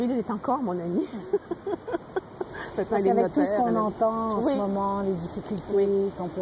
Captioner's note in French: rire